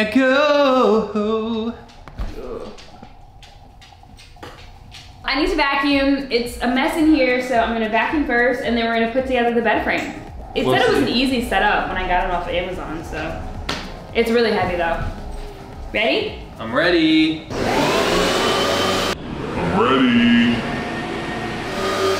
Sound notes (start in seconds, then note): 17.5 vacuum running